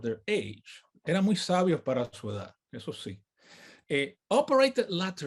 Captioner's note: speaks in native language